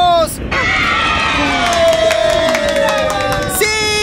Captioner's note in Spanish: Aplausos